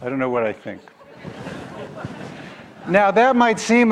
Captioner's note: audience laugh